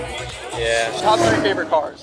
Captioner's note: car revs